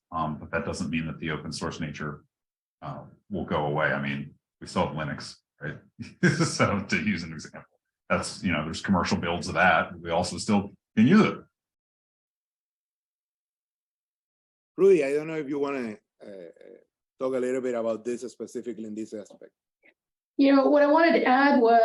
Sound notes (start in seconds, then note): 6.0 laugh